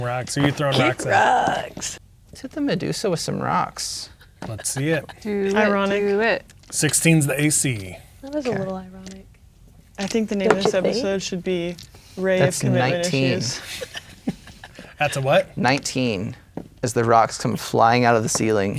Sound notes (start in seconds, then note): 12.4 laughing